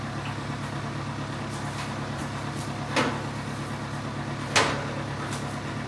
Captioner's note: machinery continues rumbling